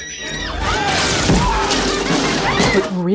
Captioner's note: witch cackling